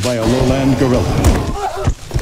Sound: groans

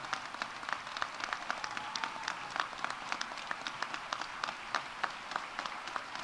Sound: audience applauding; audience cheering

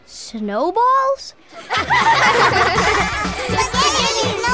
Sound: laughing

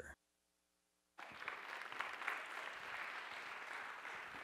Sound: applause

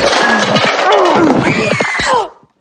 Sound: girl Scream

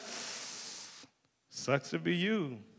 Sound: deep inhaling

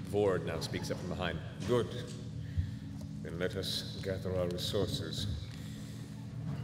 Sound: none

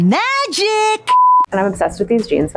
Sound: screen beeping

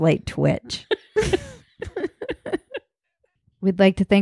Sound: laughing

